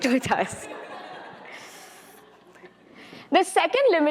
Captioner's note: attendees laughing